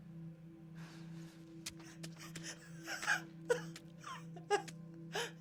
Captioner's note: stabbing